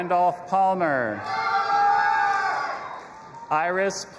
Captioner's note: audience applauding and cheering